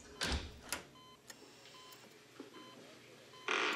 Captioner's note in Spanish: ruido al abrir la puerta